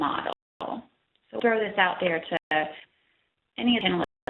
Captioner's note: audio dropping